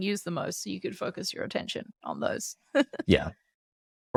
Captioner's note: laughs